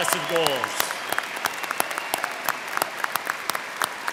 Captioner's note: crowd clapping